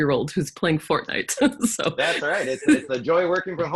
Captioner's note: laughing